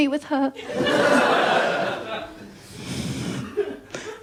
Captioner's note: laughter